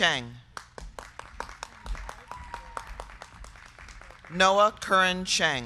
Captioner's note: crowd clapping